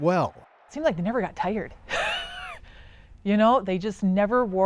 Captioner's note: laughs